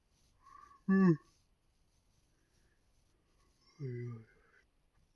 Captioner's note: yawning